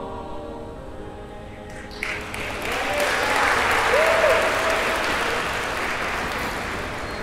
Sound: audience applauds; audience cheers

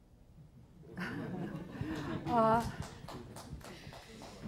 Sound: chuckling, sparse applause

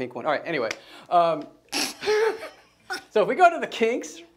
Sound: laughing

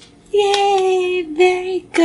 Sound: claps

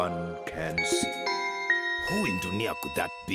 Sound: doorbell ringing

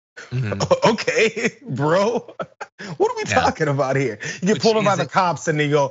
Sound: laugh

